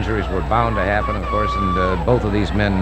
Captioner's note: audience cheering